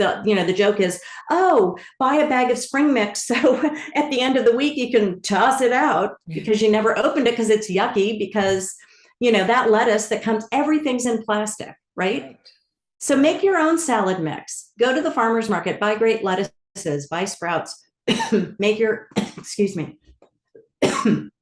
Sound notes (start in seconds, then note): 20.8 coughs